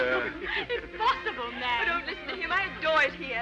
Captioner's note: laughs